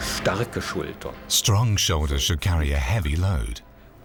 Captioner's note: speaking german